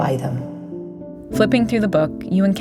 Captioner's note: none